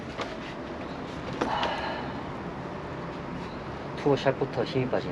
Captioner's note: exhale